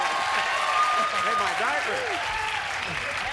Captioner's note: cheers